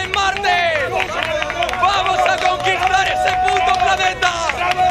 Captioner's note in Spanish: aplauden